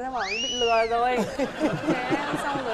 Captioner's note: laughing